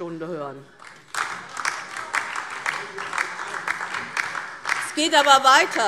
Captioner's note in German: Beifall DIE LINKE und vereinzelt SPD